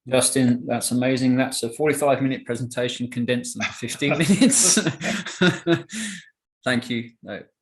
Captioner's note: laughs